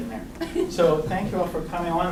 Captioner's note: woman laughs